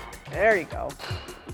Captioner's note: bat cracking